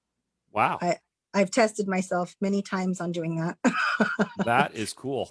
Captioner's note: laughs